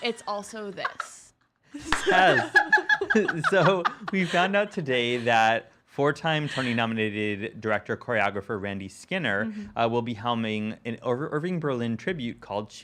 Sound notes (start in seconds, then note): 1.8 laughing